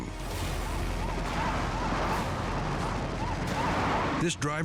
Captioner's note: sirens wailing